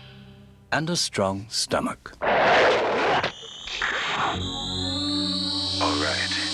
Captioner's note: screaming